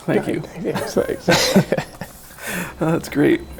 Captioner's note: laughing